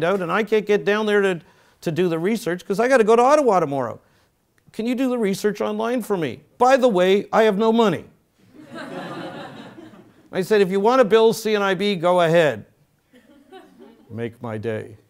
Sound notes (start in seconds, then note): 8.0 laugh